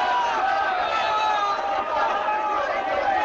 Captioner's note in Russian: крики радости